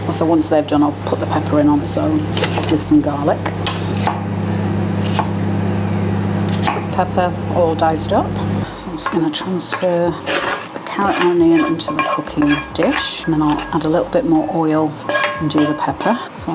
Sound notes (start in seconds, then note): 6.5 chop chop chop